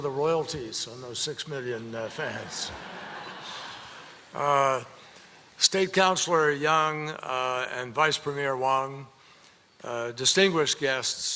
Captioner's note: laughter